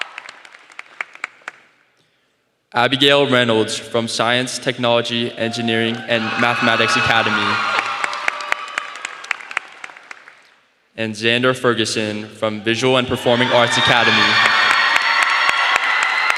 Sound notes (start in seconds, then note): 0.0 applause; 2.3 applause; 11.6 applause